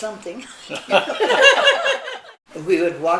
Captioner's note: laughing